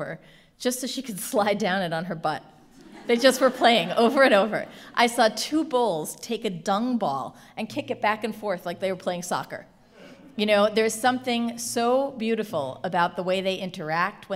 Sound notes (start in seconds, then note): 4.4 laughing